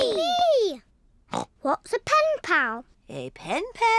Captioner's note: snorts